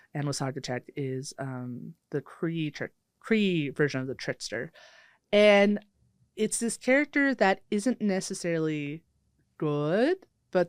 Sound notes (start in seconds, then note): none